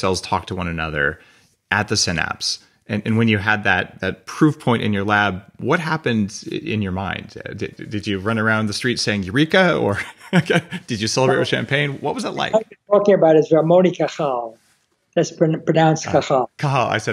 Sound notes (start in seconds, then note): 9.8 chuckles